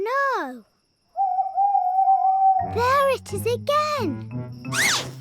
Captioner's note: owl hoots